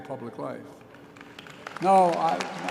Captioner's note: applause